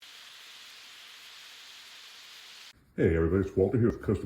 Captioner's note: sizzling